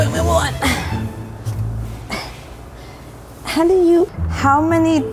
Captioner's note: panting and grunting